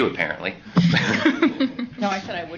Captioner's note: laughs